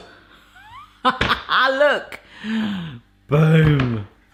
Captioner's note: chuckles